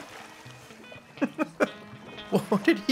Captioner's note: chuckling